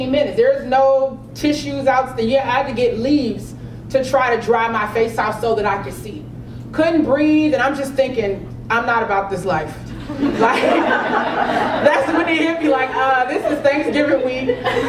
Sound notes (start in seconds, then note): 10.0 laugh